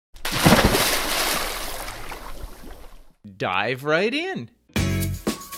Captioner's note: water splashes; upbeat music